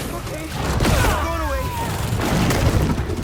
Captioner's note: enemy grunts; enemy shouts; enemy grunts; tentacles whooshing